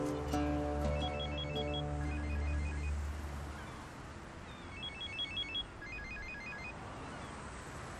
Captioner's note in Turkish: telefon çaliyor